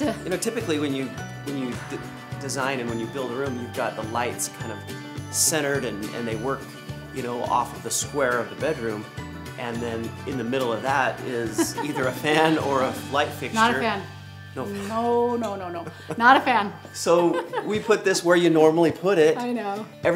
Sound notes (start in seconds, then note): 11.5 chuckles; 17.1 laughs